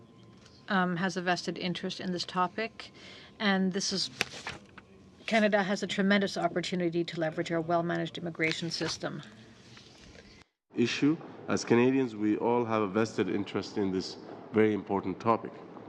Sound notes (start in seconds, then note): 5.2 speaking French